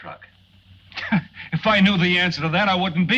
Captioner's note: scoffing